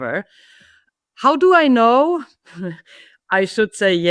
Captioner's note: laughs